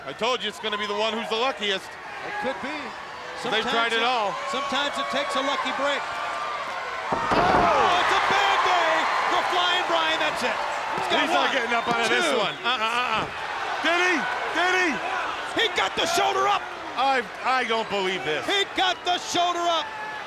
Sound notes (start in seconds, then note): 7.1 body thudding